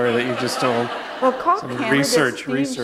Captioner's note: laughter